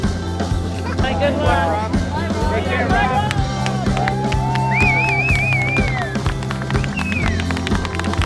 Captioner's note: cheers & applause